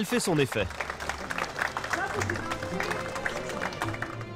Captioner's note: applause